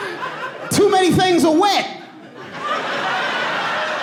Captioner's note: audience laughing